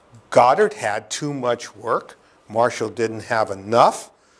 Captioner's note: none